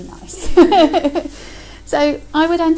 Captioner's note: laughter